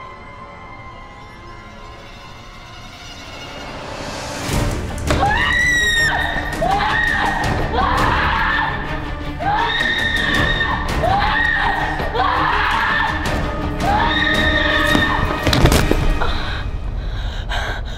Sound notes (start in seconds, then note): 5.0 hysteric screaming resumes